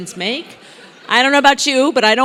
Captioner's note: laugh